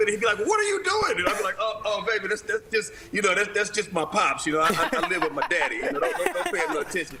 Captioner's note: laughter